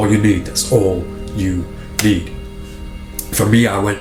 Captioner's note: hand thuds